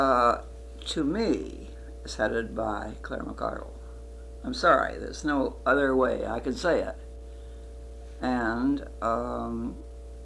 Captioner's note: whispers